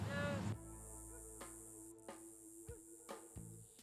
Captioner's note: insects chirping